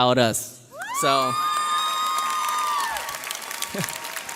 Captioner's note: graduates cheer